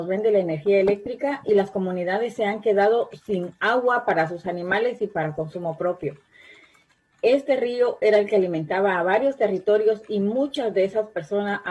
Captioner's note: spanish